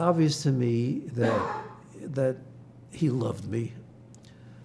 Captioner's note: coughing